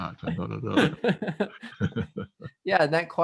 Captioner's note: laughing